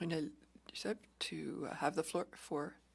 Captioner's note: speaking French